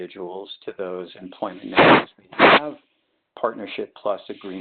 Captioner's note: sliding static